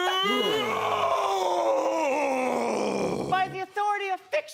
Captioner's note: growling